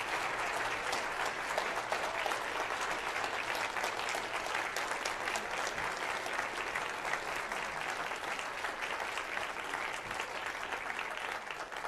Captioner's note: applause